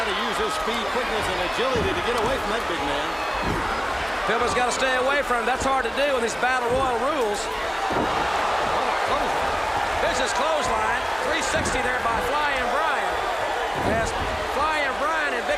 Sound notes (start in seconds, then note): 5.4 crowd chatter; 10.7 crowd cheering